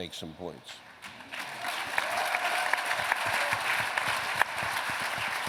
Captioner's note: applause